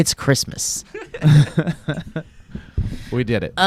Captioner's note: laughing